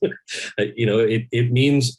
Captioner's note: Kal laughs